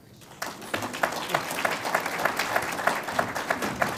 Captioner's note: audience applauds